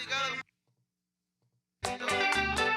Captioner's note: speaking In Foreign Language; upbeat Music